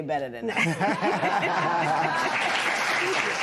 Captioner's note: laughter; applause